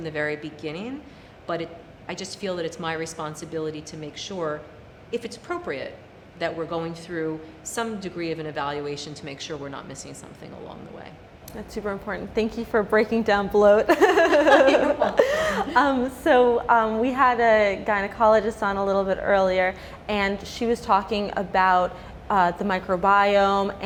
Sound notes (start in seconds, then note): 13.9 laughing